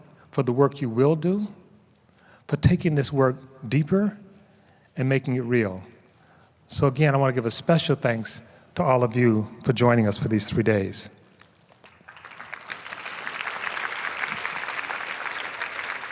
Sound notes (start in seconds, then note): 11.7 applause